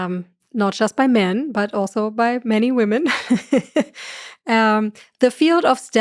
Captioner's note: laughs